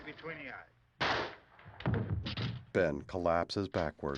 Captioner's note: gunshot